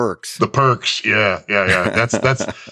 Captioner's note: laughs